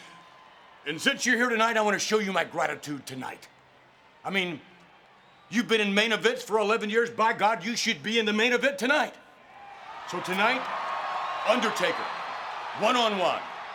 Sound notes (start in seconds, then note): 9.3 crowd cheering